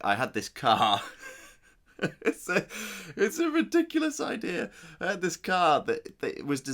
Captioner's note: laughs